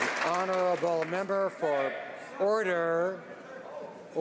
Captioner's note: some Applause